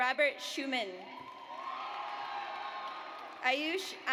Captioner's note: audience applauds